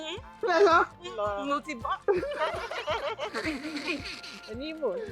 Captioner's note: laughs